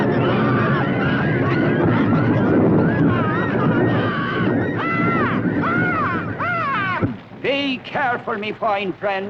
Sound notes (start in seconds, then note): 3.4 birds squawking